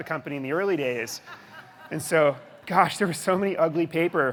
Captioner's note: audience laughing